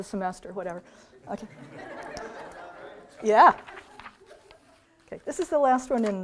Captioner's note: audience laughs